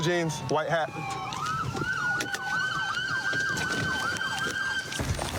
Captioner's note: siren wailing